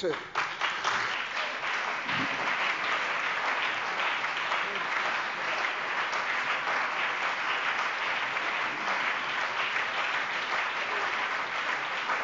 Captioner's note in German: Beifall CDU, BÜNDNIS 90/DIE GRÜNEN, SPD und DIE LINKE